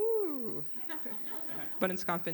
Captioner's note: laughter